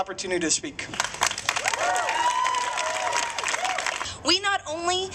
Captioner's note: applause